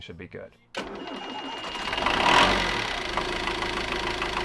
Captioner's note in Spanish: Motor funcionando